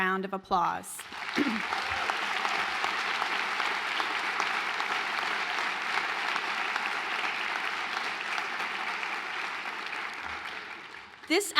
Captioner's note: applause